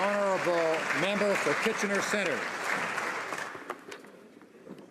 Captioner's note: applause